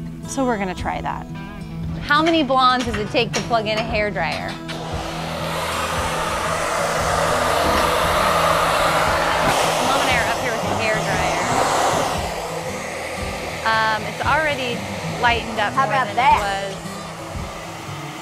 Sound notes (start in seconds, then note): 4.9 hair dryer blowing